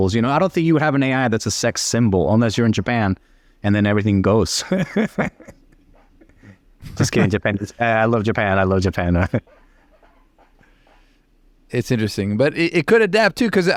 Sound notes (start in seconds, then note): 4.6 laughing